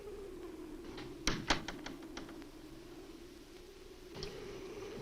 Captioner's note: door closes